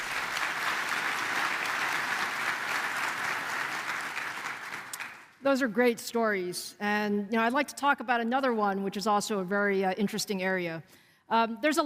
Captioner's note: applause